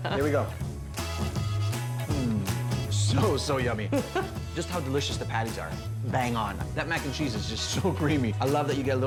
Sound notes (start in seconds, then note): 0.1 chuckles; 3.9 giggles